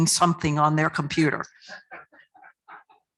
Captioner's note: laughter